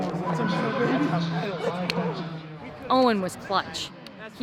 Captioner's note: crowd cheering; PA announcement